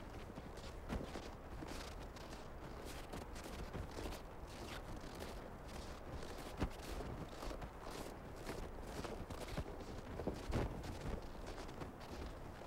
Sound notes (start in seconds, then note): 0.1 boots crunch in the snow